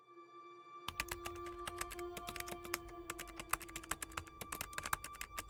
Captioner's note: keyboard clicking